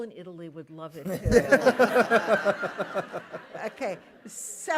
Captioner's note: laughter